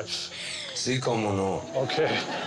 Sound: speaking in Spanish

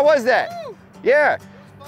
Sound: screams

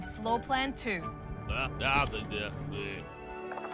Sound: jabbers

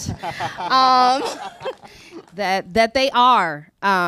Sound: chuckles

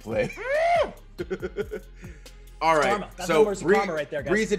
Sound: laugh

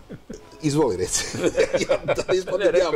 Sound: laughs

